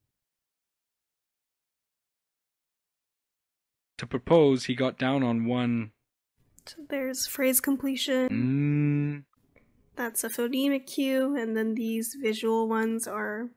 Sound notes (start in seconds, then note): 0.0 automated voice; 8.0 automated voice